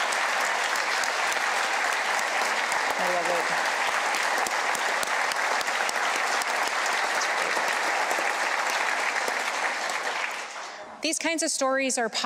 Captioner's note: applause